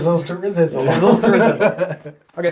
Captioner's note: all laugh